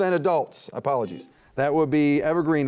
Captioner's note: buzzer beeping